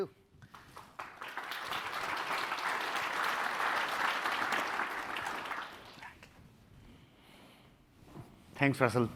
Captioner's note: applause